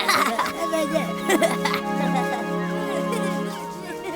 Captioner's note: birds chirping; children laughing